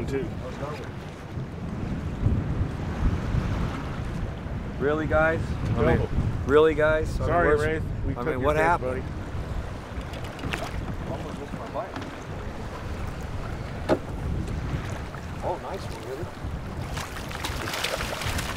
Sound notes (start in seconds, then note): 7.8 reel spinning; 16.8 fish splashing